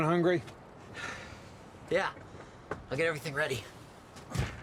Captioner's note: sighs